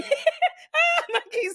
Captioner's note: laughing